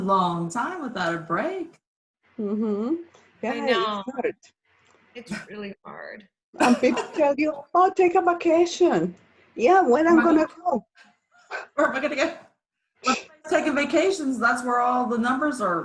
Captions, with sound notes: either like now--the other day I went somewhere and I actually put on pants so I could button and I'm like uh oh (laughs). We have a problem. (laughs) I'm just used to wearing like the stretchies.